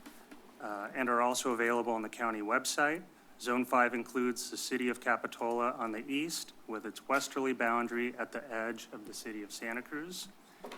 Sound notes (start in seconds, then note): none